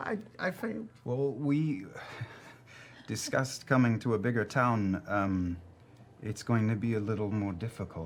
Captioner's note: sighs